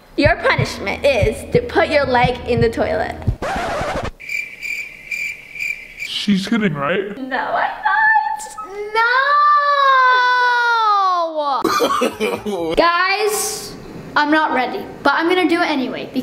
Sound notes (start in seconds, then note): 3.6 record scratching; 4.2 crickets chirping; 11.6 laughing